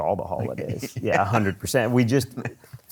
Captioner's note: laughs